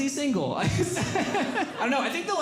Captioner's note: laughing